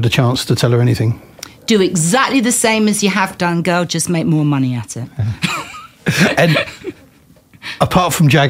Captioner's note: laughter